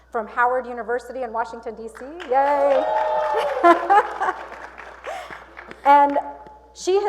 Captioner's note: cheers and Applause